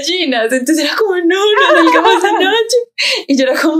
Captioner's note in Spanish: ríe